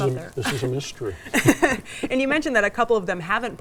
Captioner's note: laughs